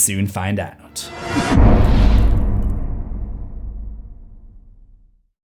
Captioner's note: impact